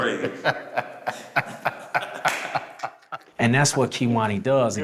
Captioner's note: people laughing